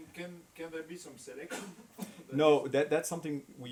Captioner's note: coughs